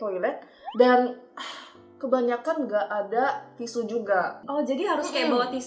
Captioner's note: sigh